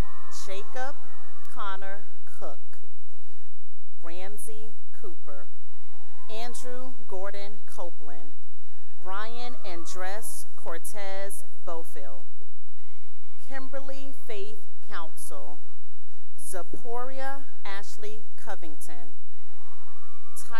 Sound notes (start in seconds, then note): 0.0 cheering; 2.7 cheering; 5.7 cheering; 12.3 cheering; 19.3 cheering